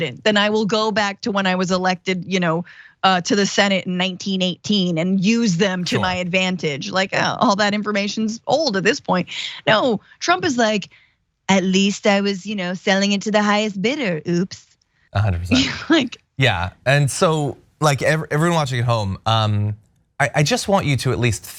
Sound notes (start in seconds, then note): 15.2 laugh